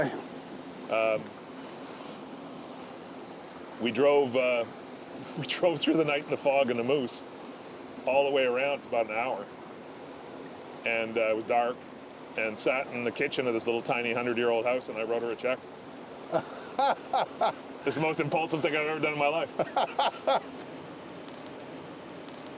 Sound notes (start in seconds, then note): 16.3 laughter